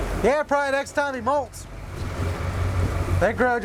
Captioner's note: none